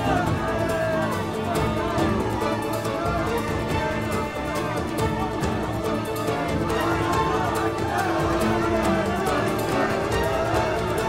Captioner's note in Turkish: Kalabalık bağrışma sesleri